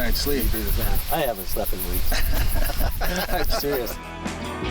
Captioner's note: laughs